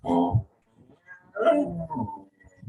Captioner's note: gruffs